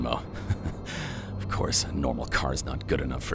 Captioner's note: giggles